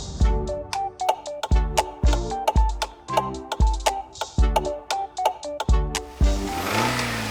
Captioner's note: turn signal clicks; car accelerates